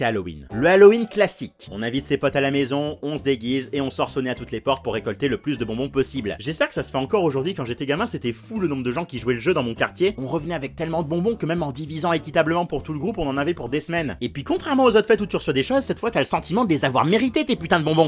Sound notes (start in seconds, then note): none